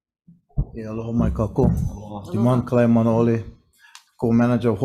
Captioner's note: speaker speaking in foreign language